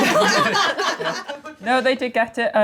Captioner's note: laughing